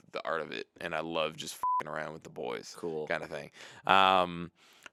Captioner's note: beep